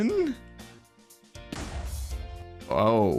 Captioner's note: Tnt explosion